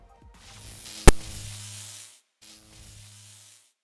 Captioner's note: electric Buzz